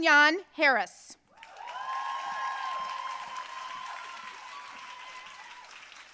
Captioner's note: audience cheering and applauding